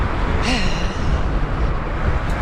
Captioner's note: big sigh